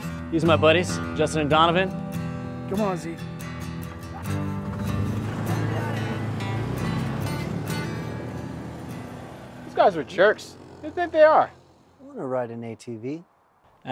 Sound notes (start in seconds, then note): 4.6 engines rev